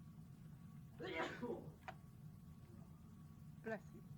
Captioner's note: student sneezes